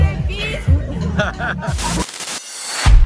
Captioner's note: laughter